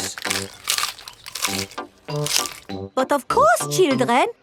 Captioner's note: munching